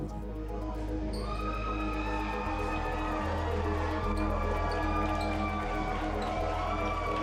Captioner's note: cheering and yelling